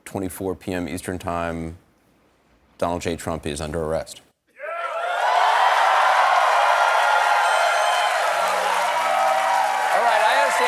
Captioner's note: cheers and applause